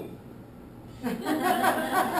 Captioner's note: laughter